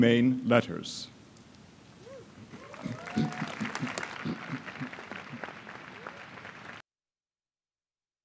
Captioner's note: applause